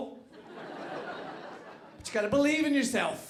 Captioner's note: audience laughing